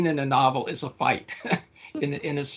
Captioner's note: laughing